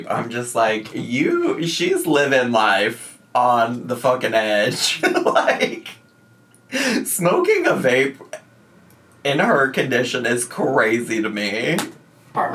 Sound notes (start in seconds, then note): 4.7 laughing